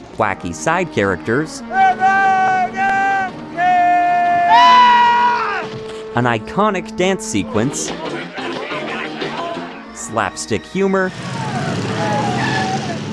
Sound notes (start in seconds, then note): 4.7 yells